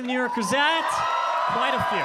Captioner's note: audience cheering